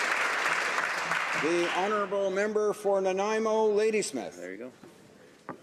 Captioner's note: some Applause